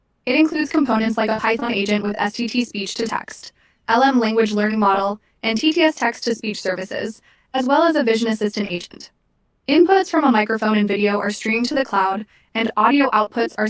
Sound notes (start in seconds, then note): 5.9 text-to-speech